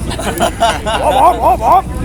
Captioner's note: laughing